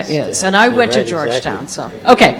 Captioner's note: laughs